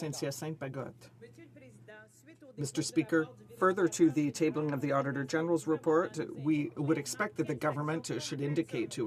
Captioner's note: some Applause